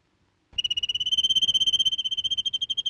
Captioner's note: bird twittering